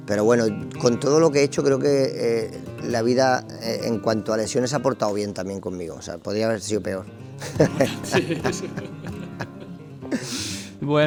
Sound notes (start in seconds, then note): 7.4 laughs